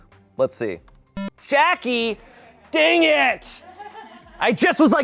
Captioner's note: electronic beep